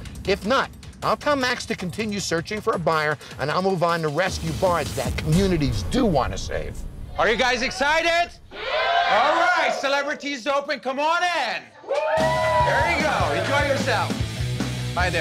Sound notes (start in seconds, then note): 8.4 crowd cheering